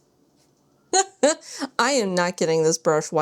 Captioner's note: laughs